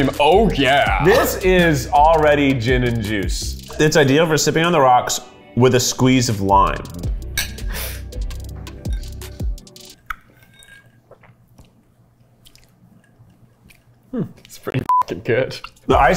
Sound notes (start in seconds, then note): 7.3 glasses clinking; 14.8 beep